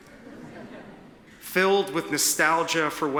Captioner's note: attendees titter